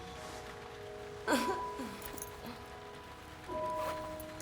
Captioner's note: unzips trousers; laughs